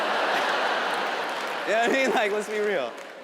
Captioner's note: audience laughs